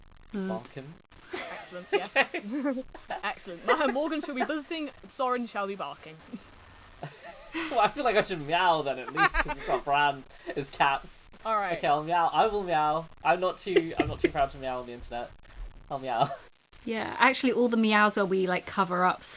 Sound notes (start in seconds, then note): 7.0 laughs; 13.6 laughs